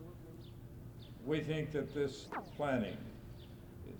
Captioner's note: camera noise